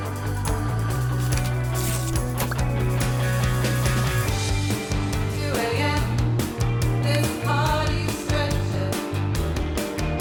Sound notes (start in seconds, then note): 0.7 register clangs; 5.0 alternative rock music playing